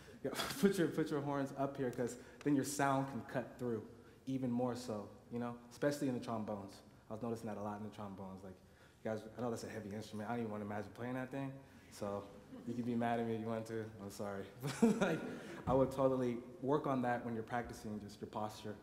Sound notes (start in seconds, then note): 14.6 laughs